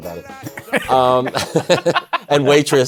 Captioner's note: laughter